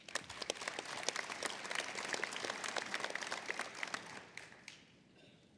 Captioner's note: applause